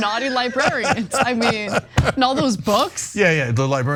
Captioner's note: laugh